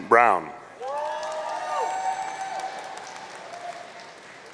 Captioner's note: audience cheering